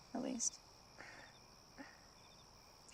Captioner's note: Scarlet chuckles